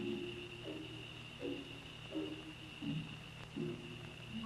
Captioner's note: insects chirping; stirring music